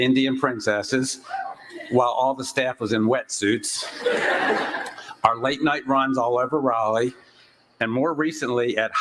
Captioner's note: laughter